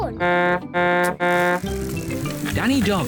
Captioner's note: honks horn